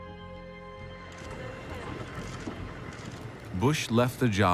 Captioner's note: cameras clicking